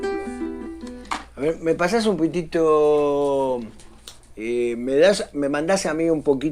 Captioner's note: speaking in spanish